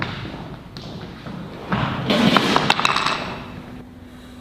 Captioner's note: door closes